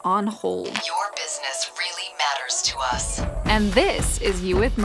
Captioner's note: voice On Phone